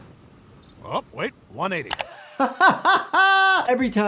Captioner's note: laughing